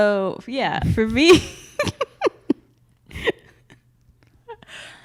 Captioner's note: laughing